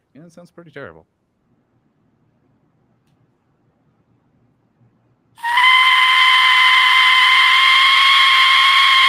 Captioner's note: aztec death whistle screeching